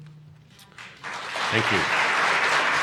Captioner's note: audience applauding